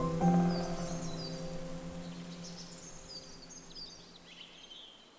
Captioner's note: forest din